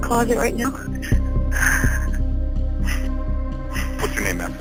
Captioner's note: shuddering breaths